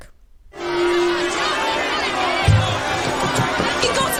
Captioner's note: crowd clamouring